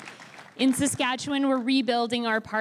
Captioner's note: crowd cheering and applauding